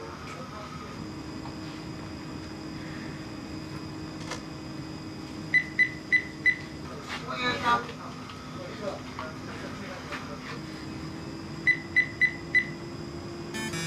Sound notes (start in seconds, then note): 5.7 ATM keys beeping; 7.7 shoppers chattering; 11.8 ATM keys beeping